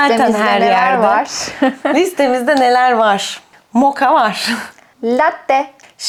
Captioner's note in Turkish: kahkaha